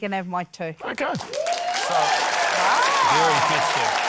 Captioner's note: cheering, applause